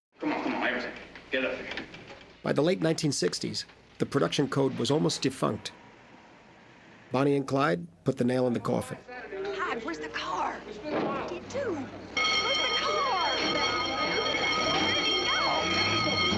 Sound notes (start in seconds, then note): 12.1 alarm Ringing